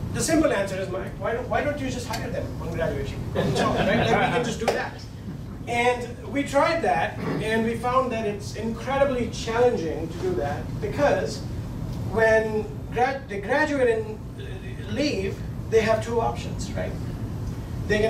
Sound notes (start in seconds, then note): 3.3 laughing